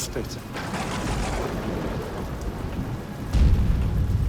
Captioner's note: thunder crashing